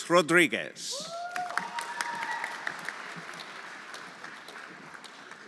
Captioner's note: everyone applauding